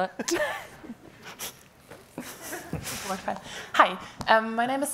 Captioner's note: woman laughing